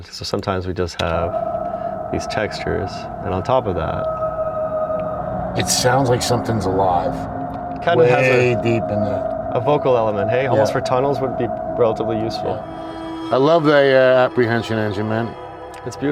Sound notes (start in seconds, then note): 3.3 whooshing textured sound